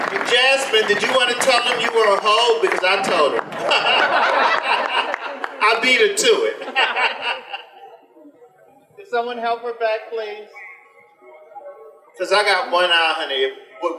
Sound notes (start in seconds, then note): 3.6 general laughter; 7.3 general laughter continues